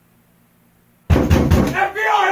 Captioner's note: knock knock knock